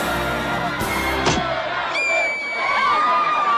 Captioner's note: gun blasting; first lady screaming